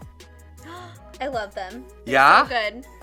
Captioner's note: gasps